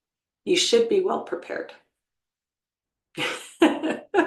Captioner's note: laughs